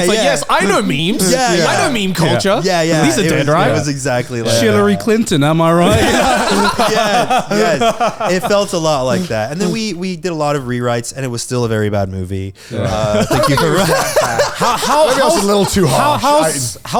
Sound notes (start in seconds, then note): 6.5 all laughing; 12.6 laughing